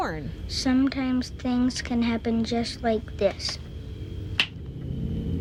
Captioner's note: snap